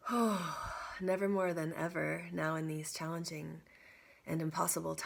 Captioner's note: exhaling